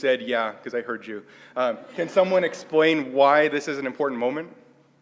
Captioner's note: laugh